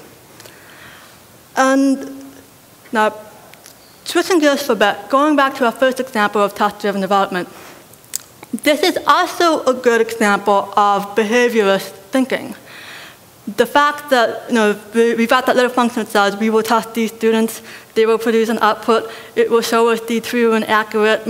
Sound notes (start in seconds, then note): 16.1 robotic voice